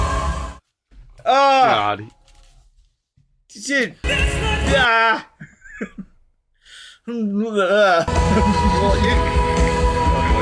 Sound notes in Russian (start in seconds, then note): 1.4 крик